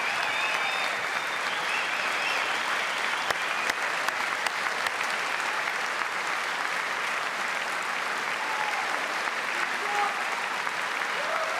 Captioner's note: cheers and applause